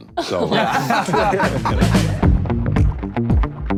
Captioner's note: everyone laughing; relaxed music